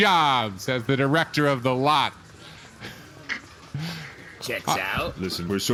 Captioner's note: pause, stifled laughter